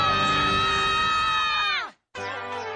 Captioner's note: screams